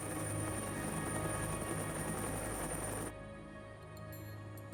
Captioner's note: helicopter thrumming